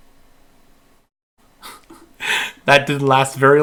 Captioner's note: laughing